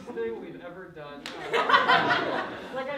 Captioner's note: laughter